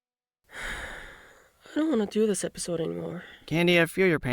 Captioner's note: sigh